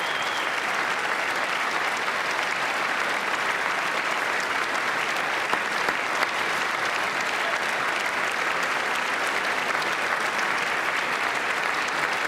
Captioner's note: applause